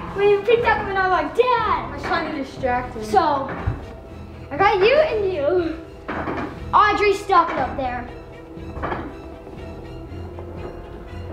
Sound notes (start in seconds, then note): 6.4 creaking noises